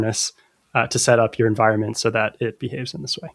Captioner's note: uh